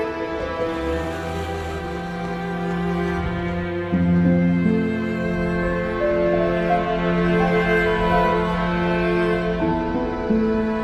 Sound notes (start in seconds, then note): 1.1 engine revving